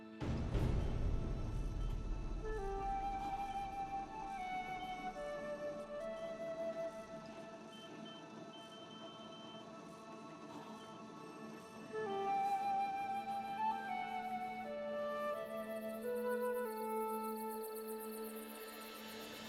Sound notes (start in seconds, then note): 0.0 solemn music continues; 8.4 machines beeping